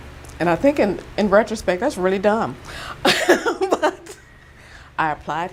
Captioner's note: chuckles